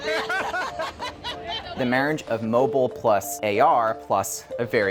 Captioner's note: laughter